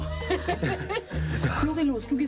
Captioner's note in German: Lachen